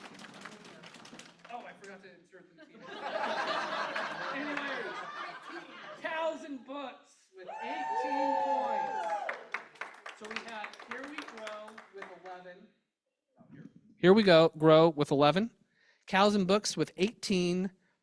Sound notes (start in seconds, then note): 2.7 laughter